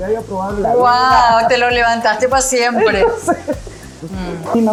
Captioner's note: laugh